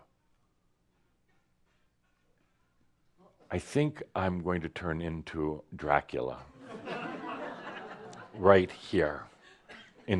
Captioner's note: laughter